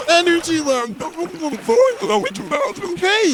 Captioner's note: indistinct chatter